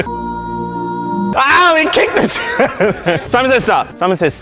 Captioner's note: choral music; laughing